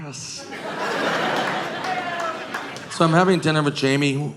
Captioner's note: audience laughing